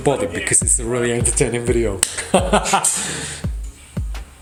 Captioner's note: laughs